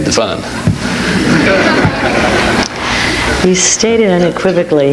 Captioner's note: audience laughs